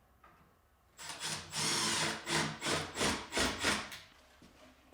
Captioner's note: drill whirring